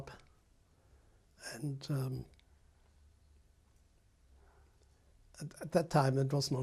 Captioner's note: pauses for 3 seconds